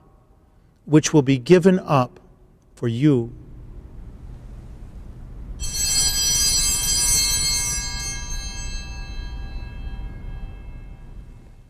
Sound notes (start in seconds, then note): 5.6 bells ringing